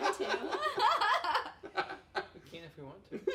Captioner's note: laughs